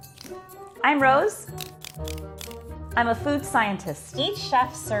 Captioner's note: clicks